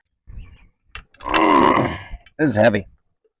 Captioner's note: groans